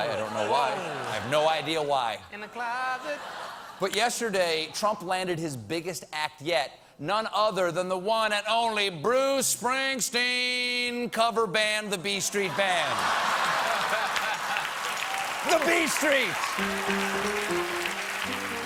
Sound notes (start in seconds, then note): 11.0 applause; 12.5 laughter